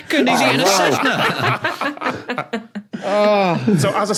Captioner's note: group laughing